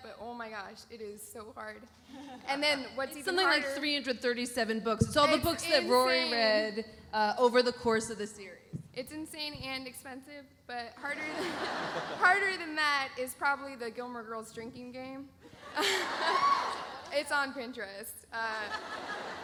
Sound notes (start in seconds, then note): 15.7 laughs